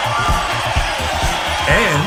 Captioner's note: horrendous screaming